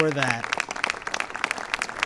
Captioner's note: applause